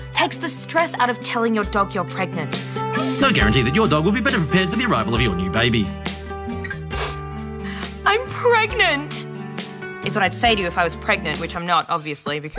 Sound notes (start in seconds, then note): 6.7 sniffs